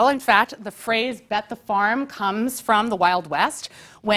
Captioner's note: none